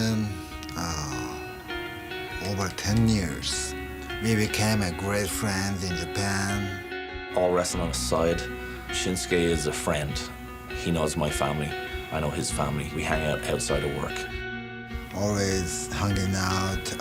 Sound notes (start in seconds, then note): none